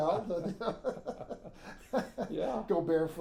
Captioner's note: laughing